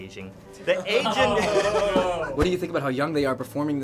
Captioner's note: Finebros laughs; laughs